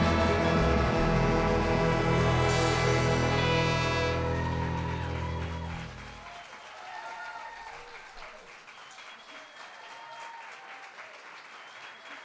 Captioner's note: applause